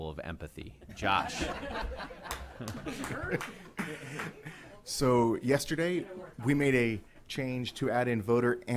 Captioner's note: laughter